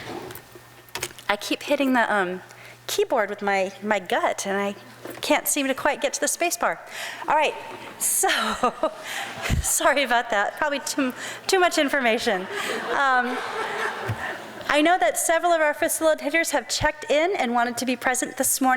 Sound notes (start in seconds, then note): 8.1 crowd laughs; 12.3 laughs